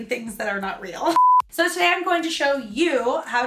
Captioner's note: digital beeping